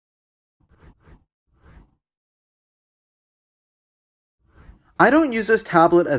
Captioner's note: transition swooshes